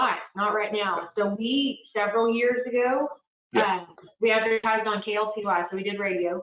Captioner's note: murmurs